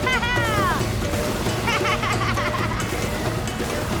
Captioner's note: laughing